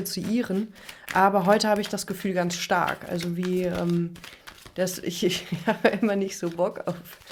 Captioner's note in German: gelächter